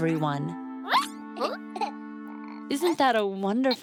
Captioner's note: baby babbling